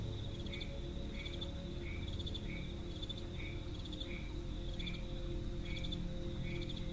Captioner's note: nocturnal animal sounds; dramatic music